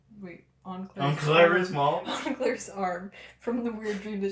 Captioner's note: laughter